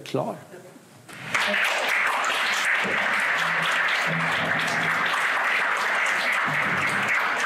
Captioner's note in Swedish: Applåder